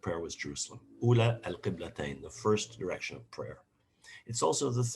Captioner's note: non-english speech